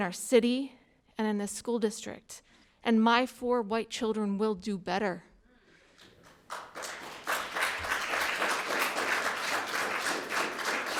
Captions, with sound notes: in our city, and in this school district, and my four white children will do better. (audience applauding)